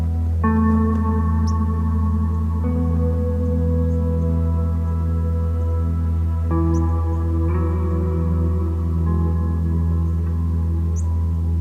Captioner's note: birds Chirping